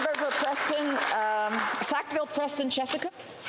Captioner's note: applause